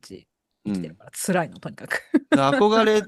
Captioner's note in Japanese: 咳払い